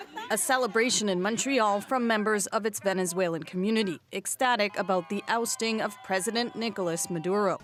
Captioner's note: chanting